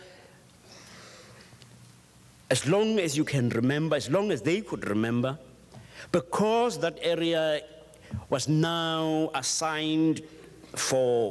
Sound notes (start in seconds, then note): none